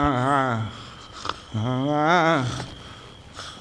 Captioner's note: urghgh; urgharRRAGH